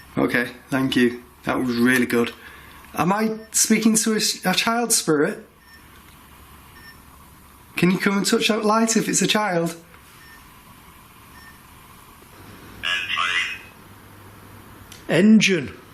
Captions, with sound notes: Okay, thank you, that was really good. Am I speaking to a child spirit? Can you come and touch that light if it's a child? (puck speaking) - Engine.